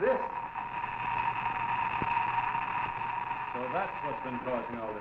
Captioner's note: machine clicking